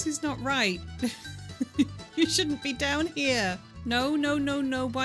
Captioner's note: laughing